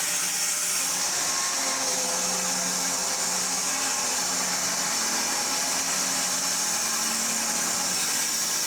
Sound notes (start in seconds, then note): 1.5 saw whirring continues